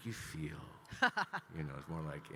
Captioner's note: laughing